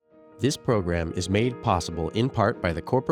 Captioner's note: voiceover